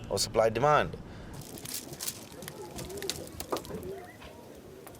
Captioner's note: fire crackling